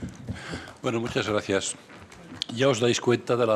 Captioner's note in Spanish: Aplausos